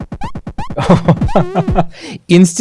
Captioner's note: graphics beeping